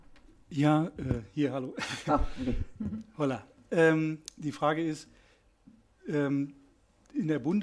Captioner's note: laughs